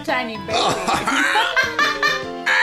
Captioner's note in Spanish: Ruidos de bebé totalmente normales :v